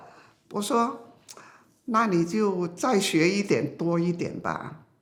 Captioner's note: speaking foreign language